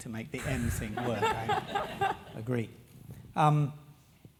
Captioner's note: laugh